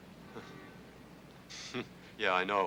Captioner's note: Lester scoffs